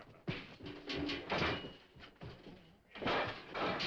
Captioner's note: pots banging